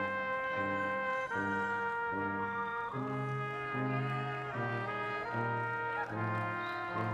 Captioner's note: people shout encouragingly